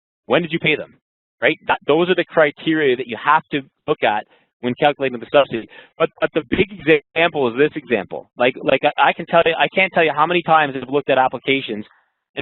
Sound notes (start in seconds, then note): 5.5 voice muffled